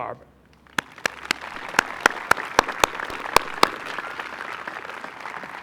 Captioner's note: applause